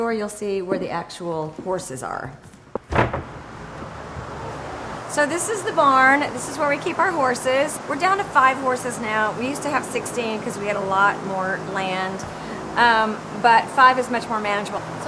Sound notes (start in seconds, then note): 2.7 clanking; 4.1 loud fans humming